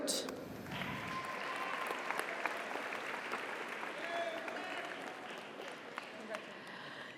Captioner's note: audience applauds; audience cheers